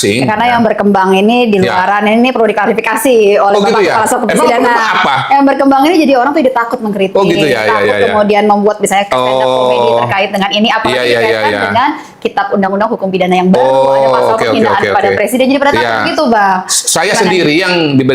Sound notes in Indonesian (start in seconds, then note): 4.3 tertawa